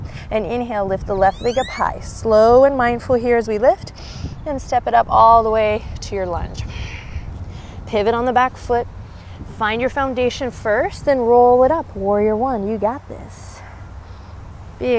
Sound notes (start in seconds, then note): 3.6 takes deep breath; 6.6 blows out breath